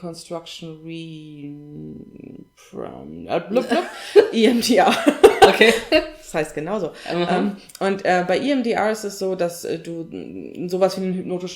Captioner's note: laughs